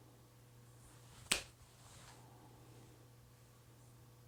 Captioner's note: snaps fingers